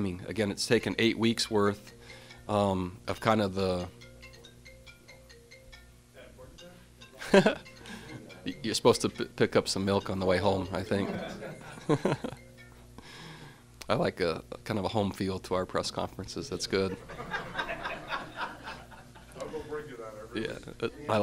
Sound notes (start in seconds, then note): 2.3 phone ringing; 7.4 laughs; 11.0 laughter; 16.8 laughter